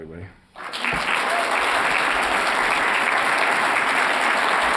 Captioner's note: applause